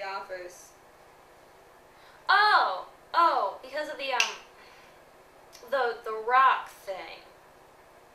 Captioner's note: snaps